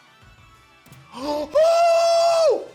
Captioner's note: gasps